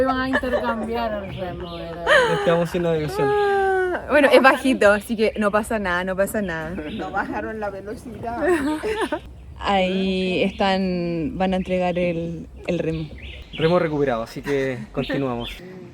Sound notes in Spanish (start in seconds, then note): 0.0 risas; 7.0 carraspeo; 8.3 risas